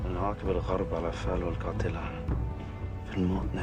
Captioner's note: speaking Arabic